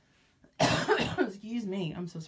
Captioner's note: cough